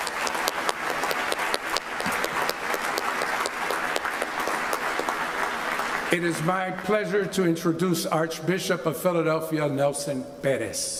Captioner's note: applause